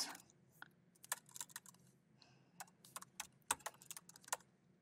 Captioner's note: keyboard clacking